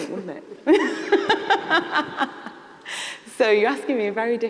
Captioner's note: laughs